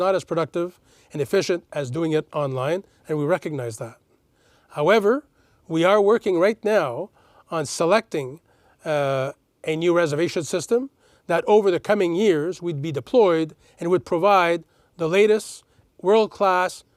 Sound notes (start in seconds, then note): none